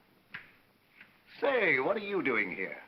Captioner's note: snaps fingers